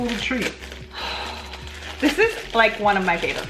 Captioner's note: gasps loudly